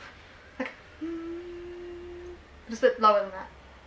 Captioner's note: hums